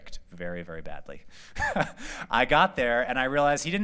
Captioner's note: laughter